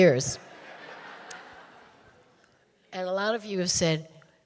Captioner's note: audience laughing